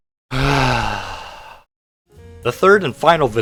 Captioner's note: sighs